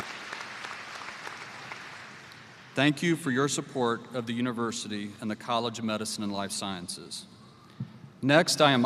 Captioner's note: applause